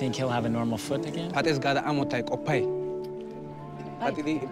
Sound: speaking foreign language

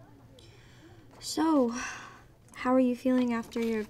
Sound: sighs

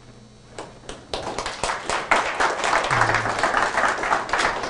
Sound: applause

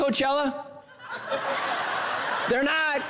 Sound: congregation laughing

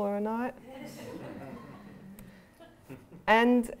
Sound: laughter

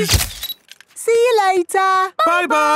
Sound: camera click

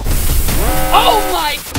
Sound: alarm blares

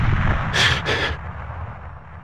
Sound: breath

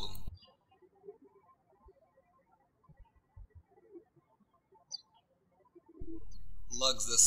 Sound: bird chirping

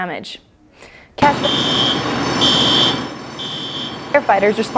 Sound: beeping

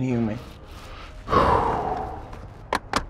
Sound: exhale

